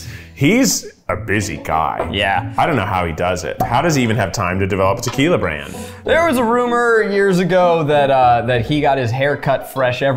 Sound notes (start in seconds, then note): none